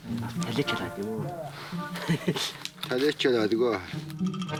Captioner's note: foreign spoken audio